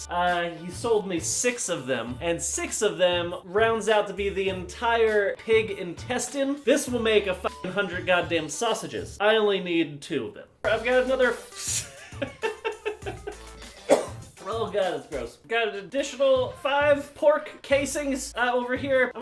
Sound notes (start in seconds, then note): 11.8 laughs; 13.7 caughs